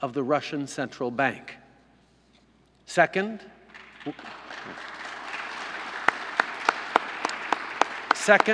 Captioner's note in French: Applaudissements